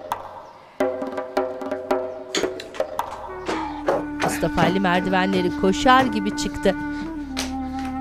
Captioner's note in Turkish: Ayak sesi